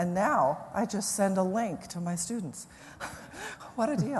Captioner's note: laughs